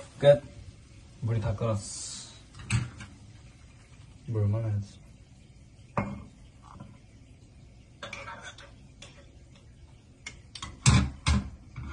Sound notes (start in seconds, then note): 7.7 stirring stirring